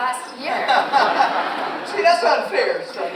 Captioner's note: audience laughs